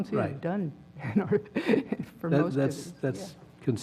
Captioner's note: laugh